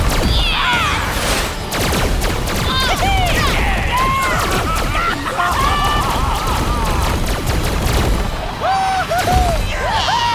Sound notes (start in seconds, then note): 4.2 laughing